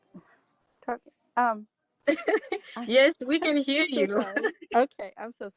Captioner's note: laughter